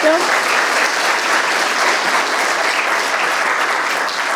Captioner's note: audience applauding